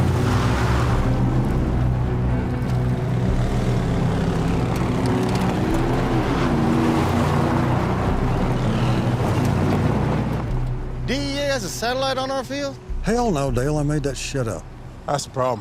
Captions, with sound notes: (intense music continues) (engine revs) - DEA has a satellite on our field? - Hell no, Dale, I made that shit up.